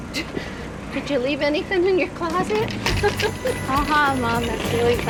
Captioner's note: laughs